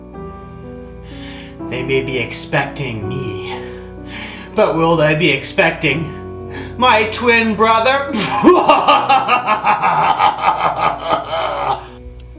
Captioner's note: laugh